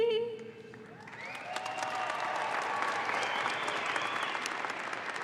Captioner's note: audience applauds